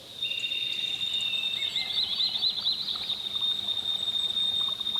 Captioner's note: birds chirping